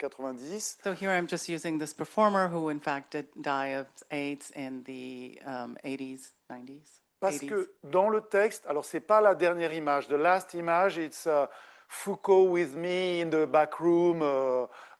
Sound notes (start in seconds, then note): 8.3 speaking French